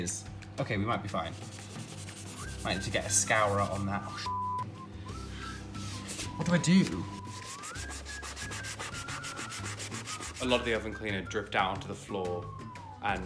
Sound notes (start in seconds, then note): 1.3 scrubbing; 4.2 beep; 7.5 scrubbing